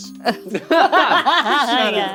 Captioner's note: all laughing